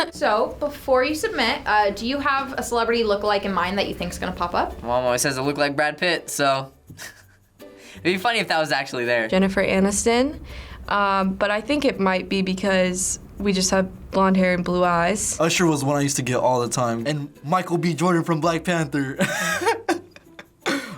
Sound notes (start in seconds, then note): 6.9 snickers; 19.2 laughs